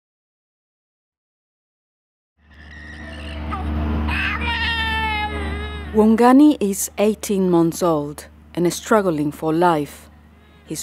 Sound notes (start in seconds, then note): 2.6 baby crying